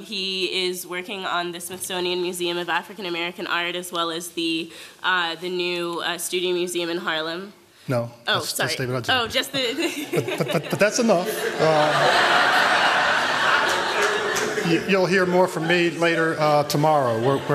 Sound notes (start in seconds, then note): 11.4 laughter